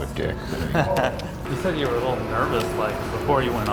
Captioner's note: laughs